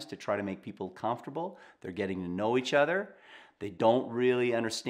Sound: none

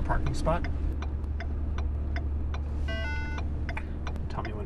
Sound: turn signal clicking

